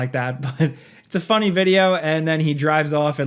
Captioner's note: chuckles